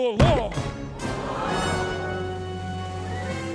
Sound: all gasping

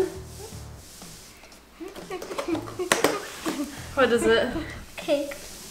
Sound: hums excitedly

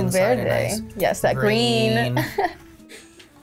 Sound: laughs

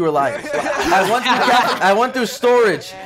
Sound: hysterical laugh

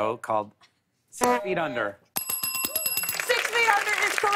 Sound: buzzer; bell dinging

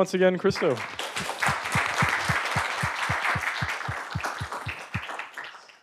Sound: applause

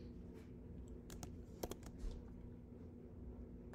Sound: mouse clicks

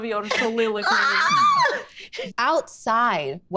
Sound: May excitedly sceams

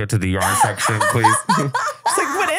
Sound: laughing

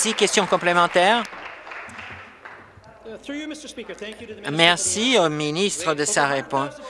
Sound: applause

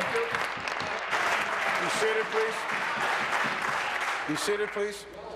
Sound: applause

